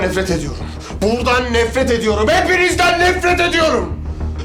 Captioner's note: shouting